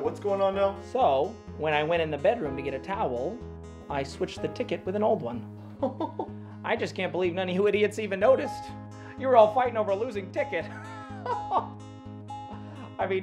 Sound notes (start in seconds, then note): 5.8 chuckling; 10.7 laughing